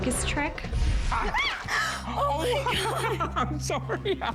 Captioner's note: screams; laughing